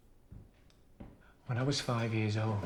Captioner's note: heavy footsteps